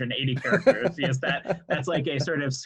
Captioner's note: laughs